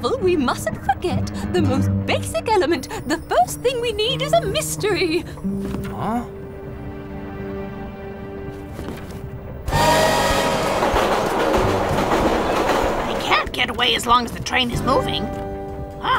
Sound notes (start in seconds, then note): 6.8 mysterious music; 9.6 train whistles and clacks